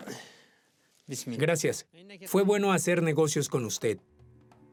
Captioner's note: Arabic spoken audio